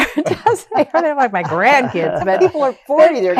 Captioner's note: laughter